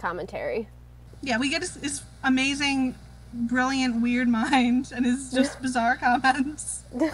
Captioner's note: laughs